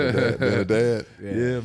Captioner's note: laughs